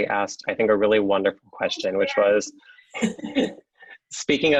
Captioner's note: laughs